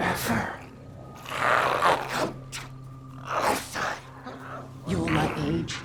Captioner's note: growls